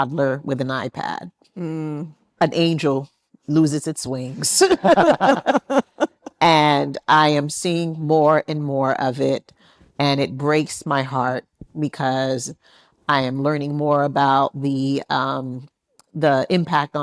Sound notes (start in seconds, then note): 4.6 attendees laughing